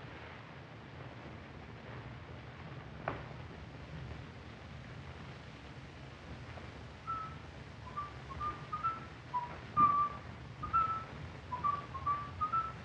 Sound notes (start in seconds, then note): 7.8 harpo whistling